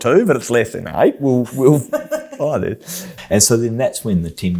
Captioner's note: laughs